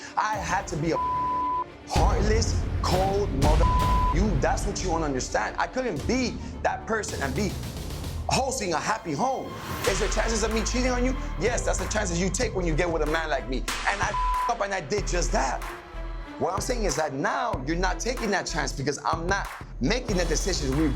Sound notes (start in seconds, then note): 3.5 beep; 14.0 beep